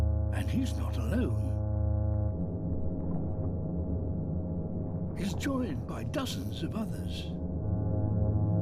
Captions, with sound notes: And he's not alone. (CHORUS OF HUMMING) He's joined by dozens of others.